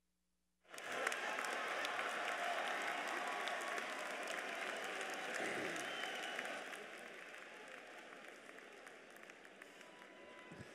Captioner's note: applause